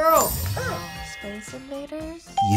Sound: buzzer barks

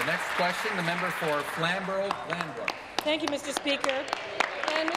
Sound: applause

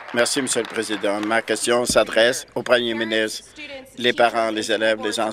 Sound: applause

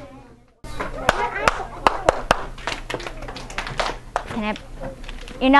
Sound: clapping

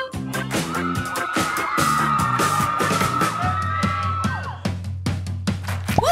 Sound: cheers

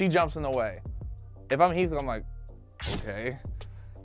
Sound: sword clashes

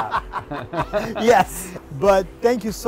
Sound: laughs; chuckles

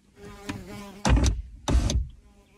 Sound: bee buzzing; car door open and shut; whining car window

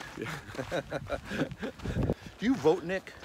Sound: laughs

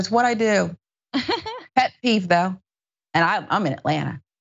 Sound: laugh

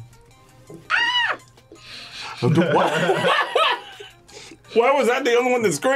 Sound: PvF screams; laughs

